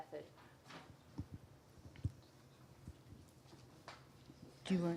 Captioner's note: pause